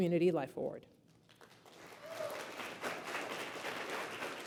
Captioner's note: applause